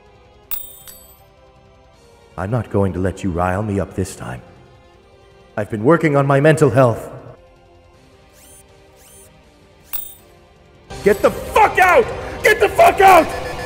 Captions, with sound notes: [yet another coin bounce] I'm not going to let you rile me up this time. I've been working on my mental health. [thinking noises] Oh no its happen- GET THE FUCK OUT! GET THE FUCK OUT!